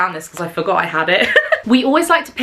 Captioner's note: chuckles